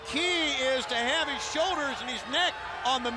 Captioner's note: crowd cheering